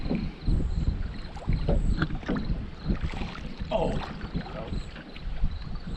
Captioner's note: water lapping